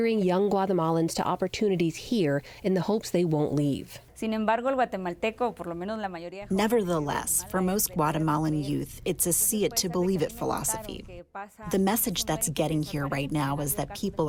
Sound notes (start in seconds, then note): 4.6 through translator